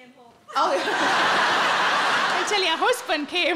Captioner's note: audience laughing